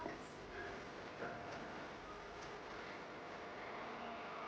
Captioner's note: none